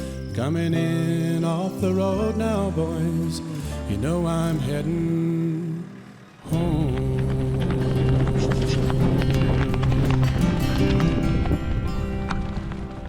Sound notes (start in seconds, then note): 6.4 horse hooves galloping